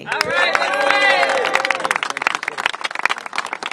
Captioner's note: applause